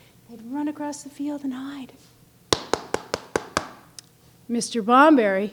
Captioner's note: knocking with fist